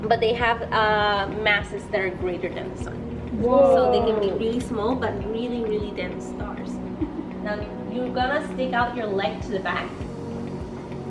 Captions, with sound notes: but they have masses that are greater than the sun. - [Children in Unison] Whoa. - So they can be really small, but really really dense stars. Now you are gonna stick out your leg to the back.